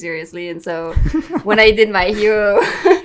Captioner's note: laughs